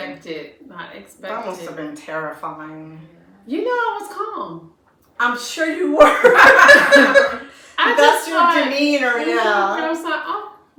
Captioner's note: laughter